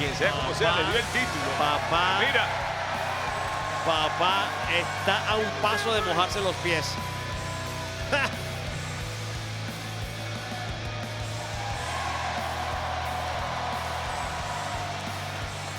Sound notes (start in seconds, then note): 8.1 laugh; 11.4 applause